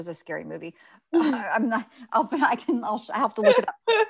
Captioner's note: laughs